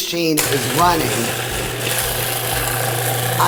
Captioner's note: food processor grinding